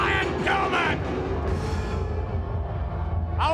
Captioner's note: crowd clamoring